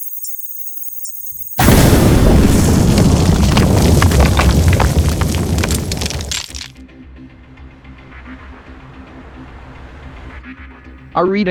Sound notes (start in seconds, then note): 0.0 alien emitter sound; 1.5 explosion